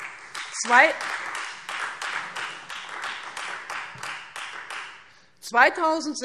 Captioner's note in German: Beifall